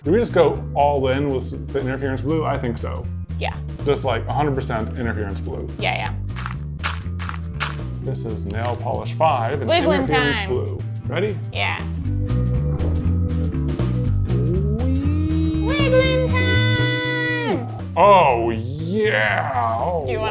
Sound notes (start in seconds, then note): 6.3 dirt crunching; 11.6 light jazz music